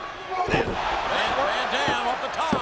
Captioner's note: crowd cheering